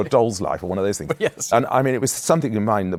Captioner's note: chuckling